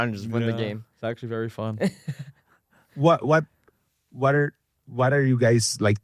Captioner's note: laughs